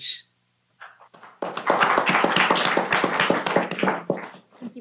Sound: applause

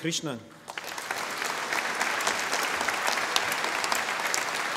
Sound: audience applauding

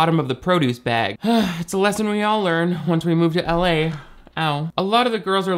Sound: sighs

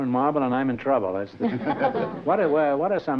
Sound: laughter

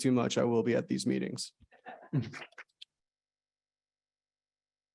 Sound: laughter

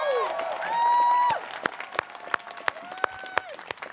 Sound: students cheering

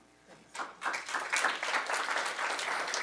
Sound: applause

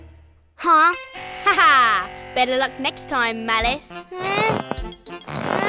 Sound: laughs

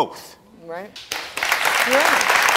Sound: audience clapping

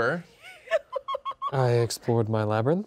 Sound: women laugh

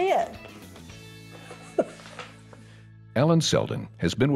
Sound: laughs

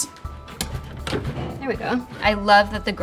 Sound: drawers sliding

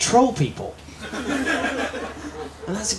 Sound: laughter

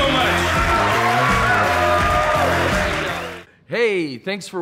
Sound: audience cheering

